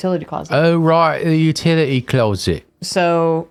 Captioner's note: vaguely British